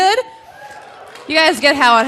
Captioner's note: audience cheering